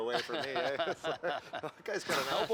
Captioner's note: laughter